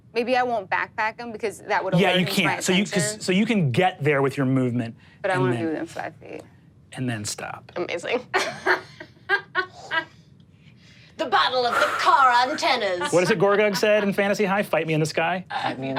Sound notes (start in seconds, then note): 8.9 laughs